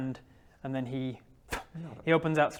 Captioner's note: pfft